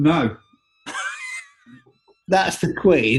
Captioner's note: laughing